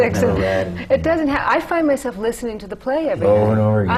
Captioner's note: laughter